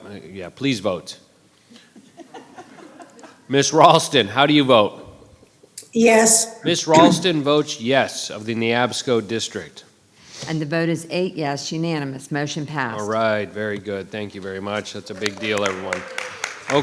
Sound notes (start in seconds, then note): 2.2 audience laughing; 4.4 chuckles; 14.8 audience applause